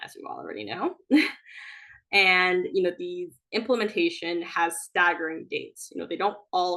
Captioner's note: chuckles